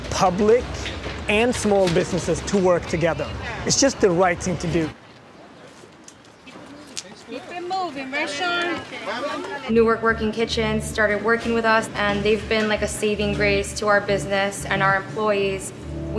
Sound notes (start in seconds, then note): 7.2 murmurs